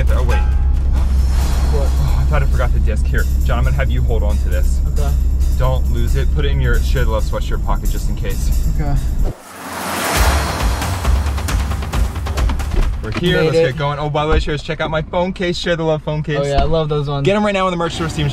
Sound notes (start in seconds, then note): 7.8 dramatic music; 9.2 air wooshing